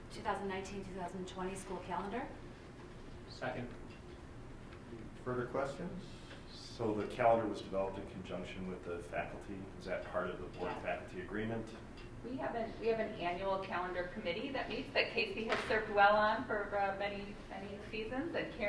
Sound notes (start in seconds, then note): none